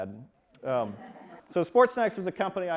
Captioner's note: audience laughs